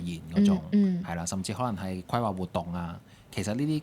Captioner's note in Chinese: 清喉嚨